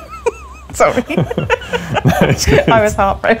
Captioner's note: laughing